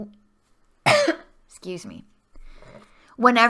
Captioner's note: cough